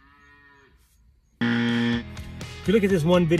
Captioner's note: cow mooing; buzzing